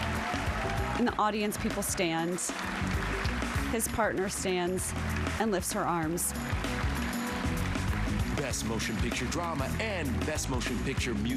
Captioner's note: applause